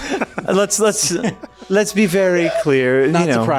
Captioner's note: laughing